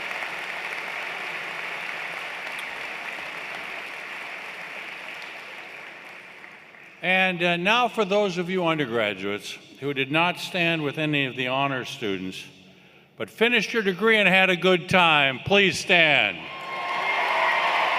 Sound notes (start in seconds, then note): 7.3 cheers and Applause